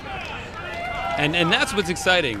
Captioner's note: crowd cheers